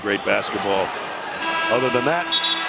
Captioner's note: buzzer